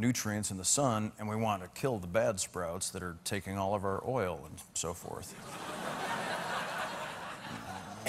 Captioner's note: laughter